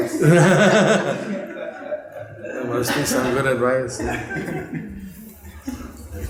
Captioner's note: laughter